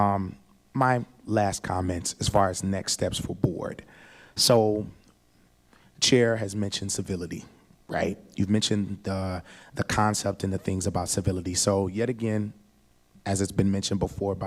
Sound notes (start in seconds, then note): none